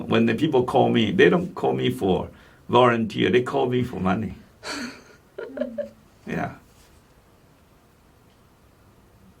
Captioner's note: laughs